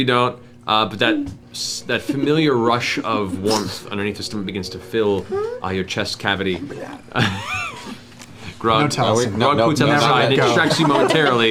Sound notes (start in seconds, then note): 6.2 fart noise; 9.9 laughs